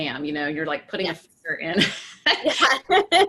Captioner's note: voice muffled; laughing